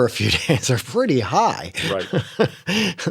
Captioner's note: laughter